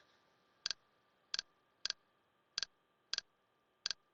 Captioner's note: mouse clicking